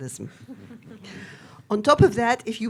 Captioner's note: audience chuckling